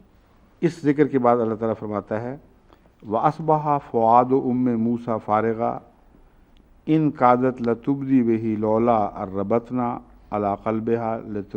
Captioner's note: Arabic